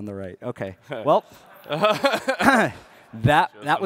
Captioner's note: crowd laughs